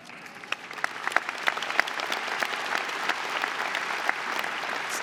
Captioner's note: audience applauding